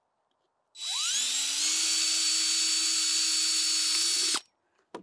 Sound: drill accelerating

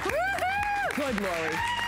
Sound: applause

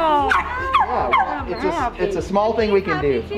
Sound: Peanut barks

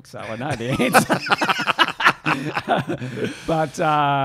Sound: laughing

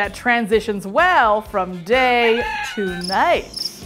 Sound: rooster crowing; crickets chirping

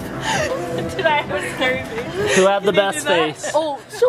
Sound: laughter

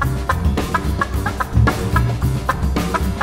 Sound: none

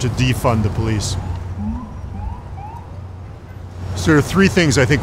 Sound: sound of police sirens

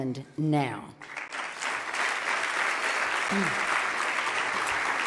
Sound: loud clapping

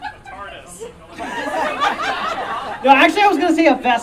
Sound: audience Laughing

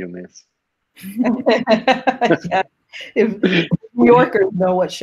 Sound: laughing

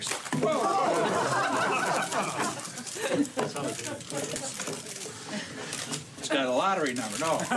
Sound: spectators laughing

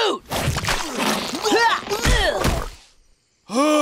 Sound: grunting

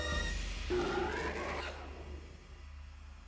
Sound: Bigfoot roaring

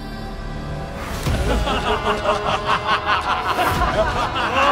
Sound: laughs

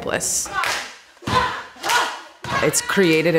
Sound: clapping sounds and shouting

